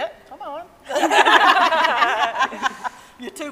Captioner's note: all laughing